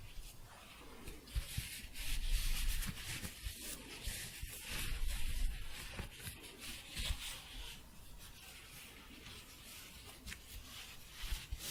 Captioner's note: louder shuffling